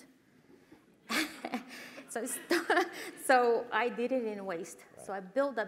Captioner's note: laugh